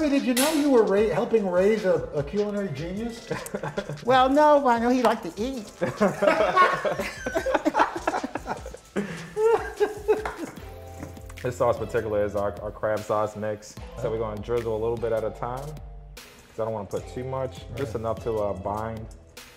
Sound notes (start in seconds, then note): 5.8 laughter